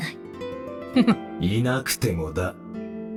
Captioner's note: chuckles